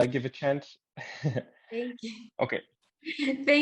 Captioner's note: chuckles